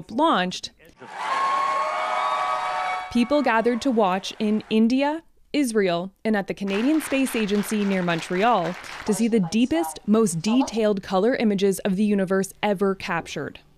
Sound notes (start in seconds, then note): 5.3 cheers and Applause